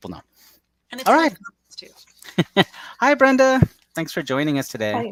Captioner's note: laughs